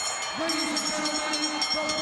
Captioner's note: bell ringing